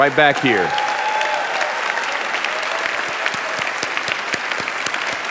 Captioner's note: audience applauding